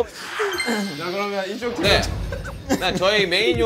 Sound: bursts out laughing every time

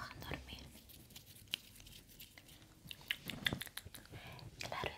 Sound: sounds of mouth and hands

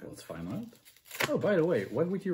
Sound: paper tearing noises

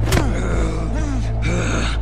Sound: snarling

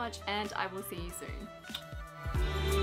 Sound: kiss

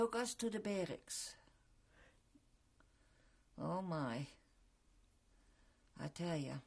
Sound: pauses for 3 seconds

